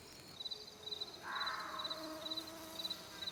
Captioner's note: crickets chirping, birds screeching; insects buzzing